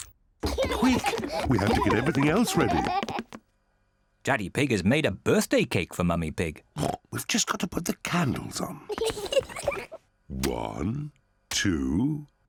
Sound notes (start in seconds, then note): 6.8 oinks; 8.9 both laugh